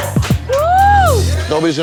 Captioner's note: clapping; cheers